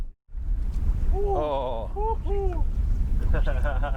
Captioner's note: whooping